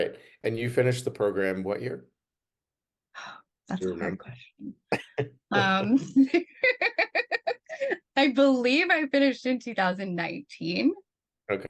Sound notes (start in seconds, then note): 5.9 laughter